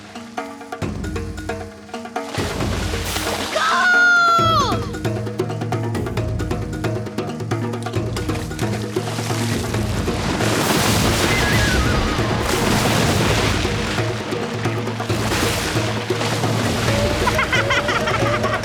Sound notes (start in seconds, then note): 10.1 splashing; 16.7 laughing